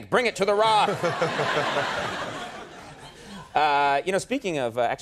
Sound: audience and The Rock laughing

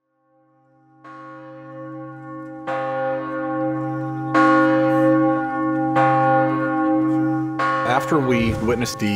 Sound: bells ringing

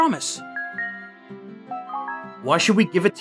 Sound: video game sounds

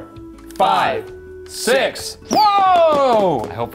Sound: twisty clicking

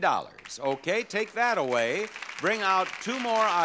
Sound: audience applauds

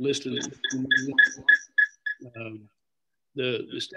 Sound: loud beeping

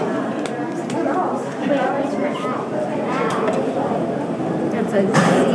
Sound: chatting voices of adults and children

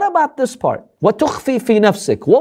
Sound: Arabic

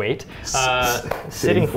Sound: laughs

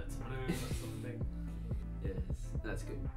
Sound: laughs

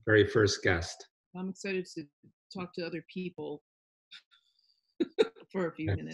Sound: laughs

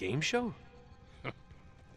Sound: laugh

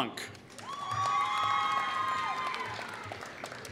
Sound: applause

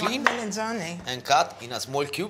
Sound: italian

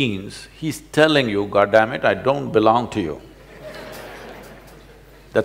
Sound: laughter

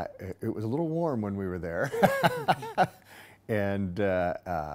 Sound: laughing

